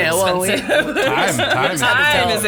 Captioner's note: laughs